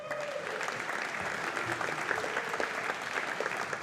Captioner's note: audience applauding